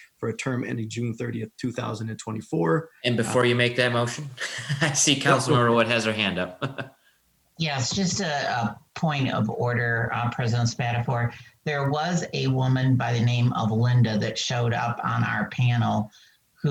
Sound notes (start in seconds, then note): 3.3 chuckles; 6.7 laughing